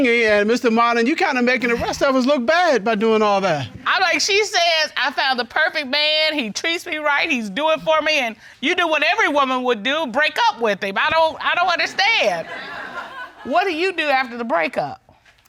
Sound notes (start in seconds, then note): 11.8 all laugh